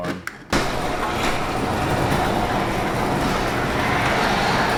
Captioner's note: garage door opens